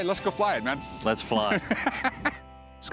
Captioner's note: laughter